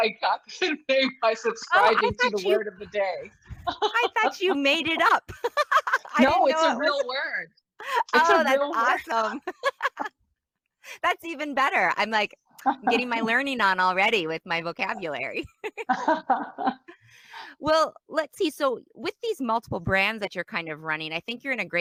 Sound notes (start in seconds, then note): 3.5 laughs; 9.4 laughs; 15.4 laughs